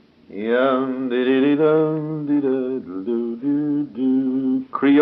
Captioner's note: humming